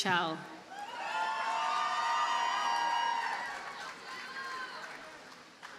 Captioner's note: audience cheers and applauds